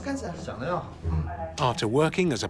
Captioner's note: speaking Tibetan